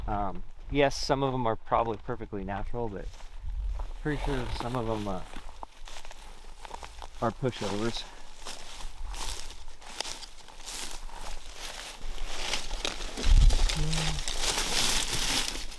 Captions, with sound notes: Yes, some of 'em are probably perfectly natural, but pretty sure some of 'em are pushovers. (footsteps crunching) (brush rustling)